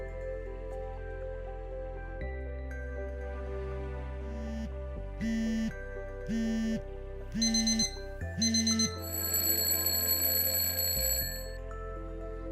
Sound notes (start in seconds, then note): 4.6 phone vibrating; 8.2 alarm ringing; 8.3 bell ringing